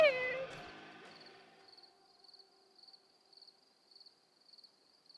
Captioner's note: crickets chirping